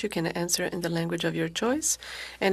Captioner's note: speaking French